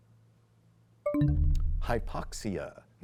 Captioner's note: bell chimes, time expire